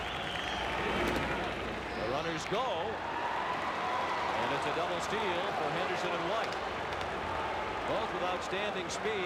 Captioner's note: applause